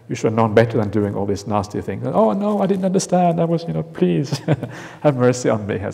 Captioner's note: chuckle